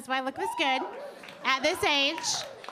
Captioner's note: audience cheering